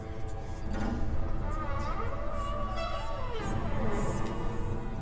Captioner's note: door creaking